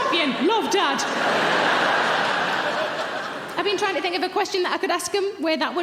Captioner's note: audience laughing